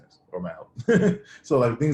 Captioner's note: laughs